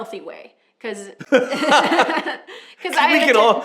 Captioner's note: laughter